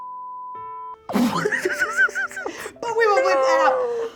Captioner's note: laughing